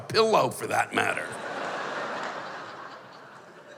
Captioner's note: laughter